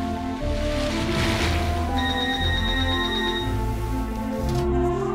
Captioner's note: phone rings; toy rattles